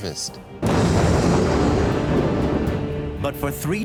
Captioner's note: thunder crashes